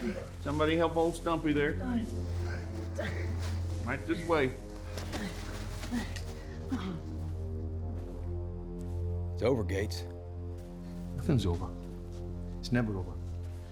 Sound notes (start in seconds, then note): 4.3 man groans; 10.9 scottish accent